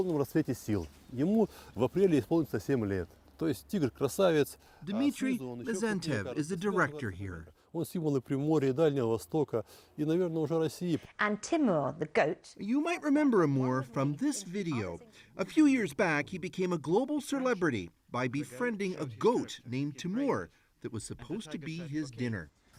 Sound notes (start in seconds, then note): 13.3 speaking foreign language